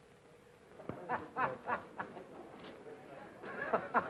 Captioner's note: happy laughing